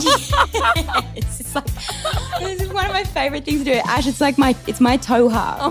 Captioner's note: laughs